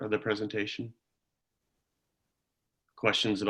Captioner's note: silence